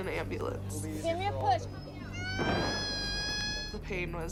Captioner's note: screaming